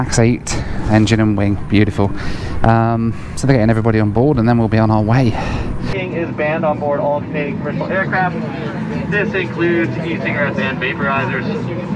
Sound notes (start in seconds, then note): 5.9 PA announcement